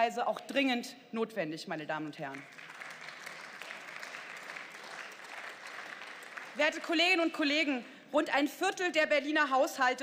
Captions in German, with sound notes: auch dringend notwendig, meine Damen und Herren. (Beifall) Werte Kolleginnen und Kollegen, rund ein Viertel der Berliner Haushalte verfügt